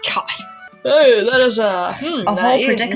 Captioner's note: yawn